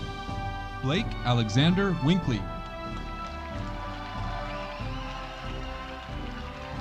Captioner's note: audience cheering